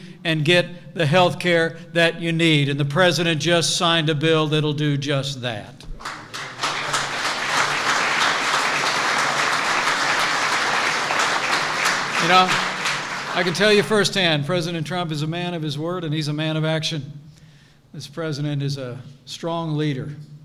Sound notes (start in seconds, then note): 6.8 applause